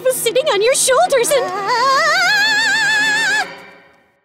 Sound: shouting

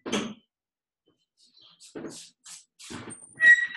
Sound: door shuts

